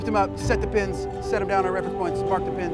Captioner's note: speaking faintly